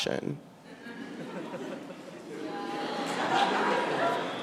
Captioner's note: audience laughing